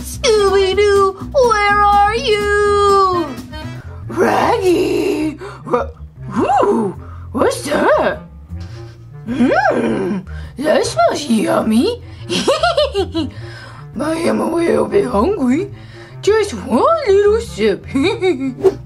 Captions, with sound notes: - Scooby Doo! Where are you? - Shaggy! Oh, what's that? Mmm! That smells yummy! (laughs) I am a little bit hungry. Just one little sip!